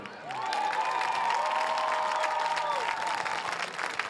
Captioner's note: audience cheers